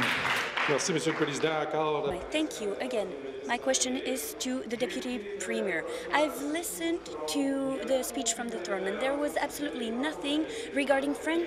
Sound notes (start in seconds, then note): 1.9 applause; 5.3 speaking in french